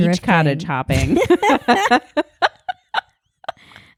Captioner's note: laughing